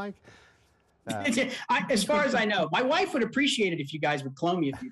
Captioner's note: laughing